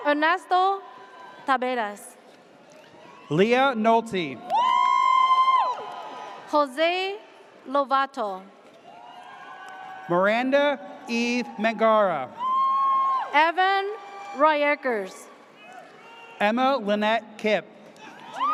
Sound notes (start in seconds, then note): 0.0 audience cheers; 4.4 audience cheers; 8.8 audience cheers; 12.3 audience cheers; 18.1 audience cheers